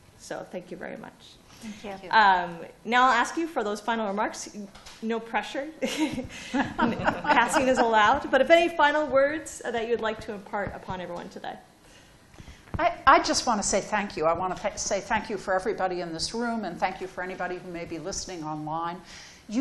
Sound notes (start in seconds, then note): 6.5 laughter